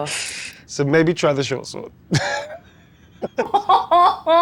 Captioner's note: laughing; laughs